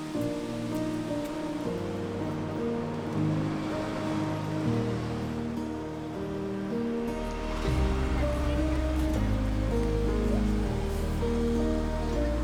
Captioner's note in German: gelächter